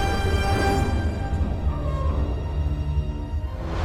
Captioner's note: metal creaking